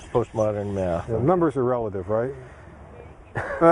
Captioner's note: both laughing